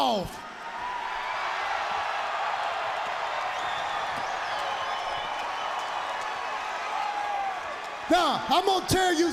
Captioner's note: crowd cheering